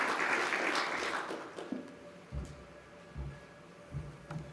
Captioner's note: applause